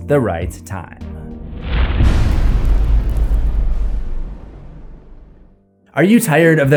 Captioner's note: impact